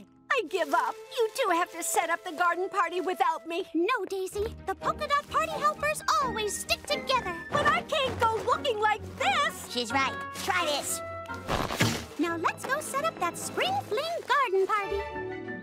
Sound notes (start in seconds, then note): 11.4 pop